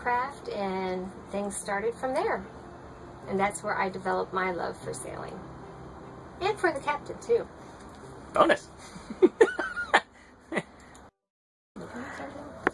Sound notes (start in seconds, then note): 8.9 giggling